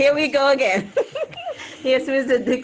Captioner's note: chuckles